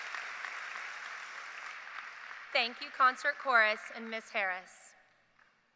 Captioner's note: applause